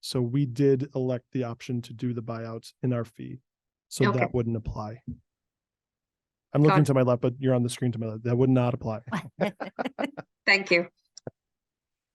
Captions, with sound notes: So, we did elect the option to do the buy-out in our fee. So that wouldn't apply. >>Got it. >>I'm looking to my left, but you're on the screen to my left; that would not apply. (participants laugh) >>Thank you.